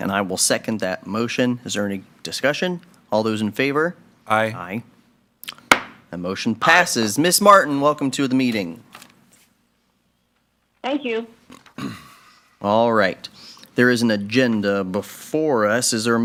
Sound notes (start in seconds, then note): 5.6 gavel thumping